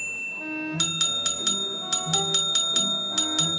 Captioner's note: bell ringing rapidly